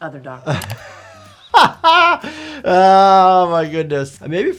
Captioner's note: laughs